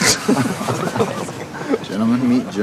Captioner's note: laughing